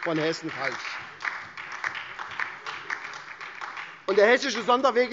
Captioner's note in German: Beifall SPD und DIE LINKE